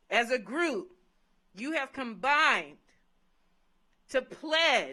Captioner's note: none